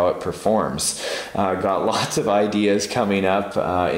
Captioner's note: laughs